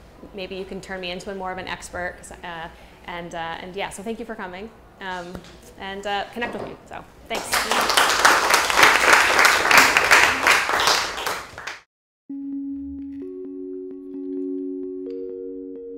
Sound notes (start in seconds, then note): 7.3 people applauding; 12.4 light bright music